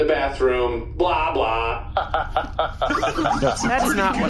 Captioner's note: laughing; laughs